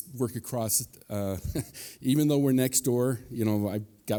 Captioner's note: chuckles